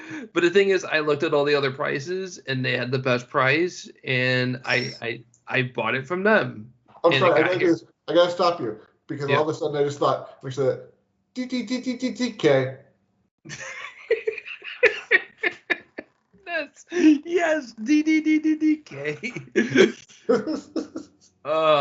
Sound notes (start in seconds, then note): 16.9 both Laughing; 17.4 imitates A Tune